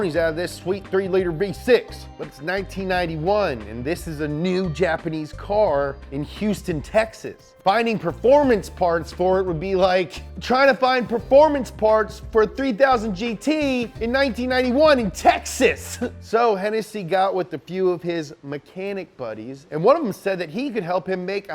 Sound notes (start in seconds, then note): 15.4 laughs